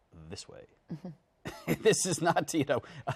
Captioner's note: laughs